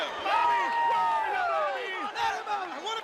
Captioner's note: crowd chatter